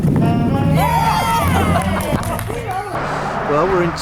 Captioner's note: cheers